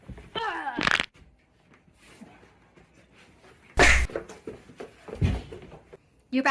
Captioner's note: Daisy grunts; bones crunching